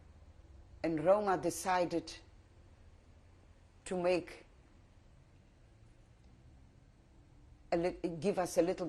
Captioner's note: pauses for 3 seconds